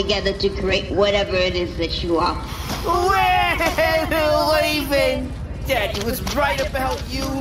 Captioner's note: crying